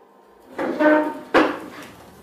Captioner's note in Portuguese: barulho sentando cadeira